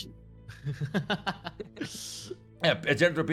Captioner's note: laughing